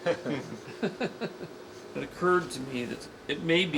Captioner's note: laughing